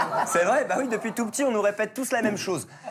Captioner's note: laughter